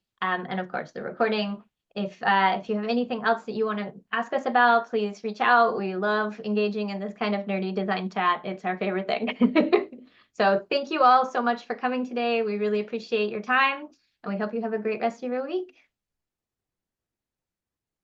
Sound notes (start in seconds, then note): 9.2 laughs